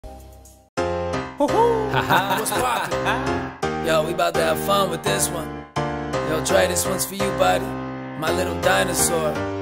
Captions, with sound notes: (Man laughing) - What's poppin'? Yo, we bout to have fun with this one. Yo, Drae! this one's for you, buddy. My little dinosaur.